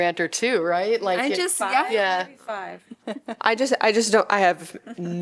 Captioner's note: laughter